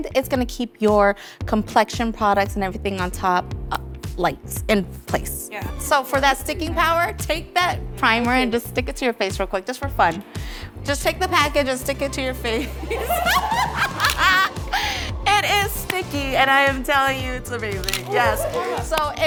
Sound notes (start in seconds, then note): 12.6 laughing